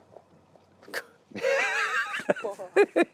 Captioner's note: both laugh